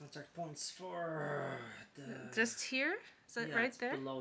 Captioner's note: pain groan